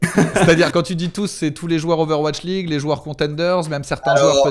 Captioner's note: laughs